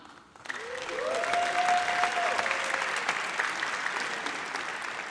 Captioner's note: audience cheers